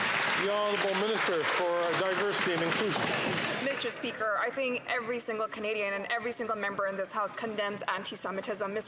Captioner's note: some Applause